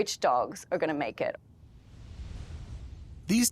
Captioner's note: whooshing sound